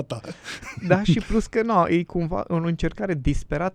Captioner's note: laughter